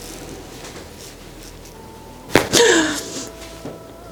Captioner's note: the sound of bones